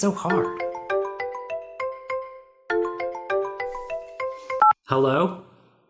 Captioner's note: DICK's cell phone rings